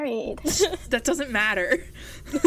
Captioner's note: hosts laugh